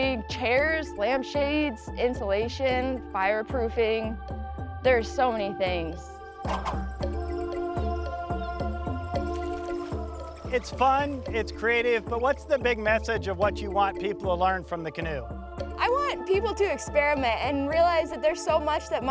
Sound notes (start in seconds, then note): 6.4 air whooshes; 9.4 gently intense electronic music